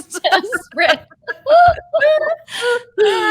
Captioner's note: both laughing